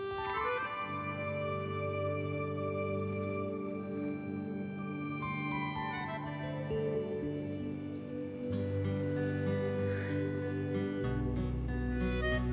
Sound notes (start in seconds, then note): 0.1 Kisses; 9.7 Sighs